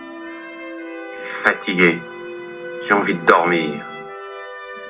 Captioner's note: voiceover of man speaking in french; voiceover of man speaking in french